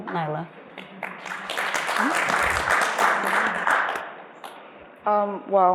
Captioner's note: applause